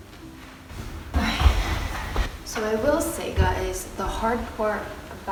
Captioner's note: sighs